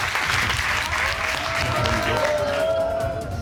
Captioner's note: audience cheers, applauds